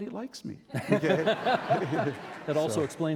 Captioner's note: laughing